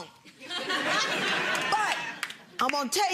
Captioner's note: audience laughing